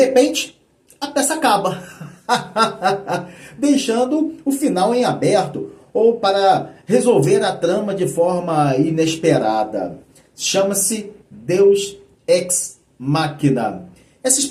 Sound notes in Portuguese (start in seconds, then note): 1.8 risadas